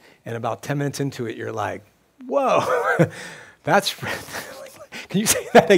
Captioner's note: laughs